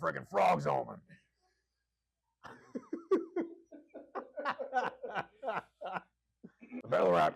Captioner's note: more hee-haws and tee-hees